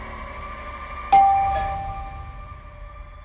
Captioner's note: doorbell rings